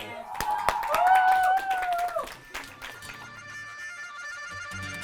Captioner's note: cheering and clapping